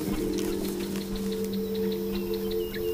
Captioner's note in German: Vogelzwitschern